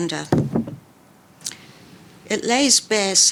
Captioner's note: book thuds